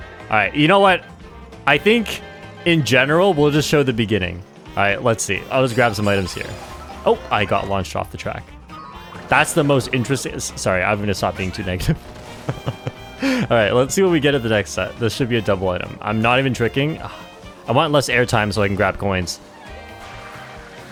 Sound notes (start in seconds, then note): 10.6 laughs